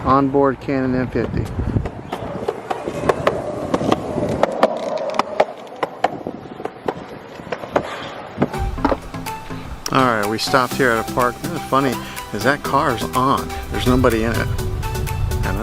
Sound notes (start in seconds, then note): 1.2 skateboard wheels clicking; 8.5 upbeat bright music